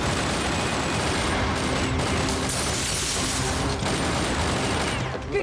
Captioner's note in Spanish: detonación de ráfagas